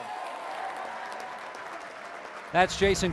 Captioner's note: applause